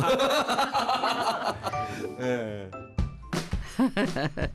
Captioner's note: just laughing~ ㅎㅎㅎㅎㅎㅎ